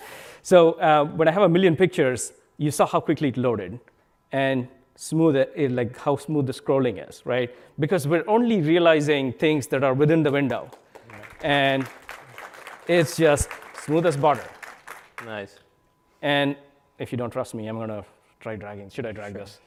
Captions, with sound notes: When I have a million pictures, you saw how quickly it loaded and how smooth the scrolling is. Because we're only realizing things that are within the window (applause) and it's just smooth as butter. If you don't trust me I'm going to try dragging. Should I drag this?